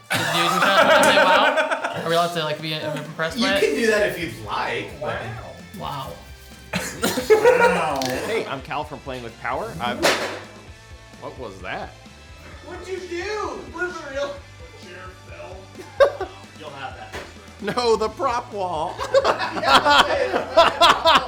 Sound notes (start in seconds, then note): 0.0 players laughing; 10.0 object clacks; 18.8 laughing